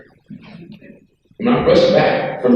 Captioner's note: woman chuckles